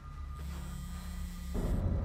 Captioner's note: phone buzzes; ominous music